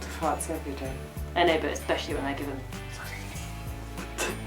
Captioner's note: whispering